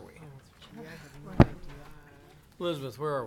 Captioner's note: board members chattering